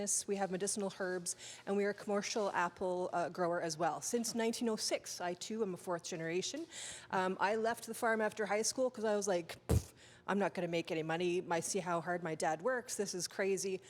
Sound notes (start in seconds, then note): 9.7 scoffing